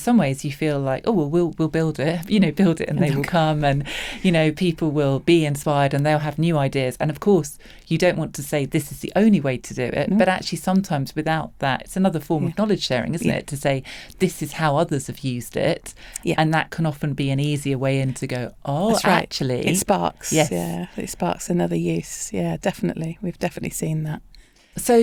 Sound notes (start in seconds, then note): 3.8 laughs